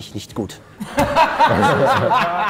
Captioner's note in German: Lachen